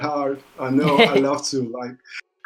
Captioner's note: laughs